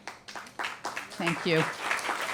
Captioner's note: applause